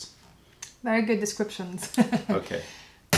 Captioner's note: laughter